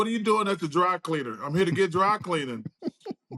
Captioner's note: laughs